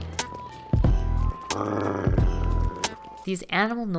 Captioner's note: grrrrrr